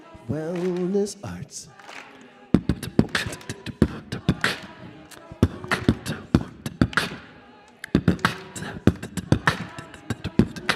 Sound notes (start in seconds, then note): 2.5 beat boxing